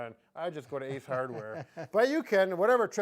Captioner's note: chuckling